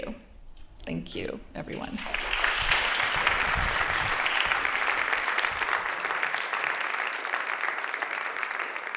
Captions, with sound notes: Thank you, everyone. [APPLAUSE]